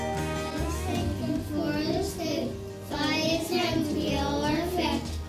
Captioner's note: people praying